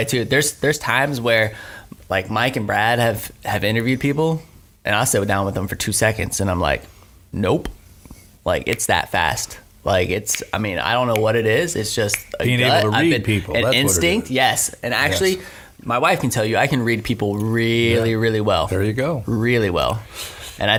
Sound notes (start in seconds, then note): 10.3 fingers snapping